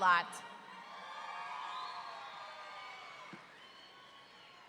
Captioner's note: audience cheering